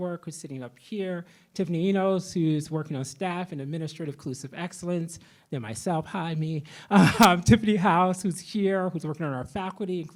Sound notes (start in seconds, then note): 6.9 laughs